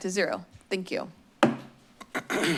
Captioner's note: gavel thumps